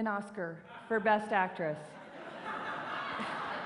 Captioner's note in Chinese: 笑聲